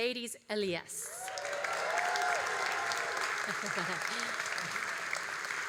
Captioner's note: all applauding and cheering